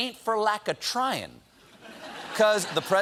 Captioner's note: laughter